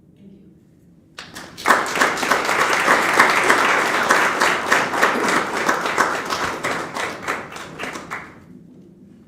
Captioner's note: applause